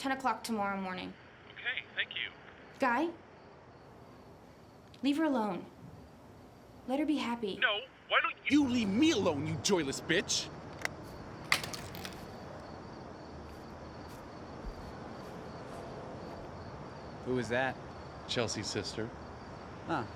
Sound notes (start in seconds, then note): 11.4 phone thuds